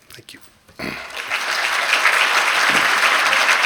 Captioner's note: applause